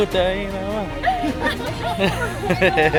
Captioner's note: other group Laughing